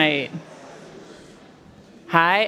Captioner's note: attendees shushing